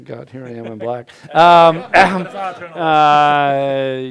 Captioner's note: crowd laughing